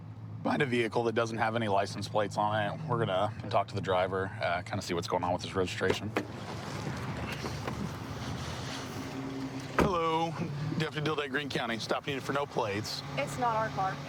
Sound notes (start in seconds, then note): none